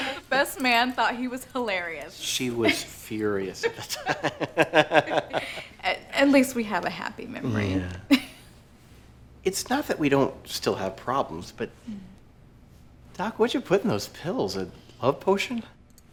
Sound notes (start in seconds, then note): 0.0 people laugh; 3.6 laughs